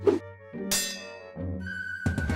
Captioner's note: hook clangs